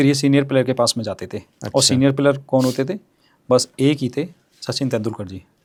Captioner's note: nasal voice